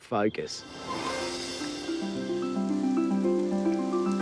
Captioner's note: water pours